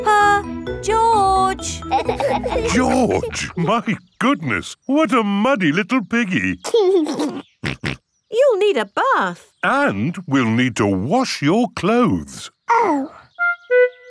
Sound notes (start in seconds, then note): 6.6 giggles and snorts